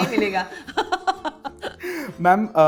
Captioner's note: chuckles